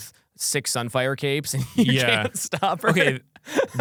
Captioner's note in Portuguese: risos